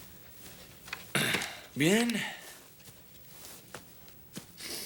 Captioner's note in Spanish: suspiro